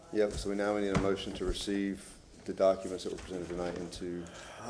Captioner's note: gavel sounding